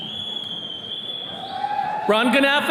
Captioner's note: attendee whistles